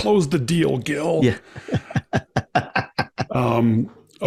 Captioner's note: laughs